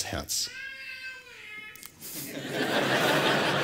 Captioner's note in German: Babygeräusche; Lachen